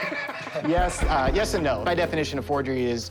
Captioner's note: chuckling